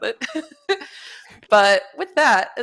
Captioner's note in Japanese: 笑い